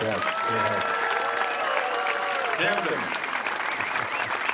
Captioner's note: crowd cheering